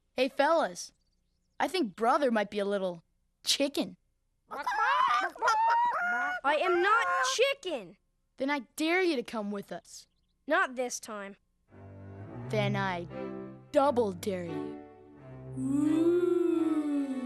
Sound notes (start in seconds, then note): 5.0 clucking